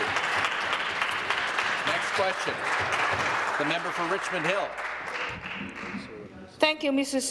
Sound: applause

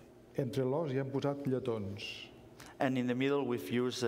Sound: speaking catalan

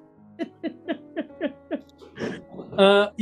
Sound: giggling

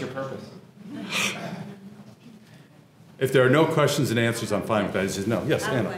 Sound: laugh

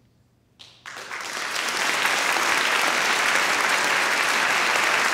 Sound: audience applauding

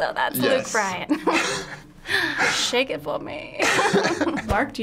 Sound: laughing

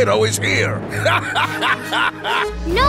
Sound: laughing

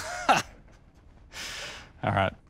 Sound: laughs

